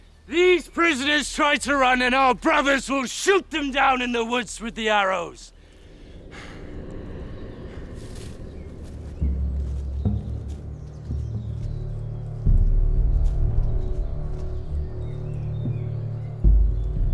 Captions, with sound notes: These prisoners try to run and our brothers will shoot them down in the woods, with the arrows. (dramatic music) (birds chirping) (dramatic music)